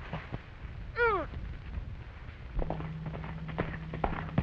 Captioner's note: grunting